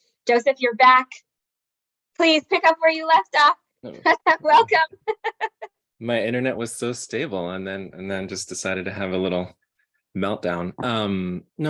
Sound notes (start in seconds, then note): 3.9 laughing